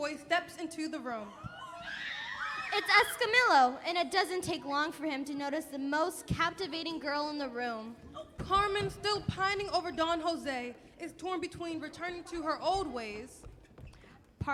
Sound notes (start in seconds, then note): 1.4 screaming